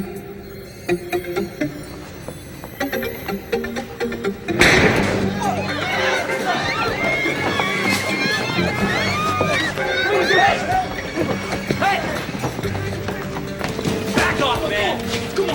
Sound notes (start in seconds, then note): 0.2 suspenseful ambient music; 4.6 gunshot fires; 4.6 people scream